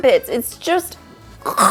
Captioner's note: chuckles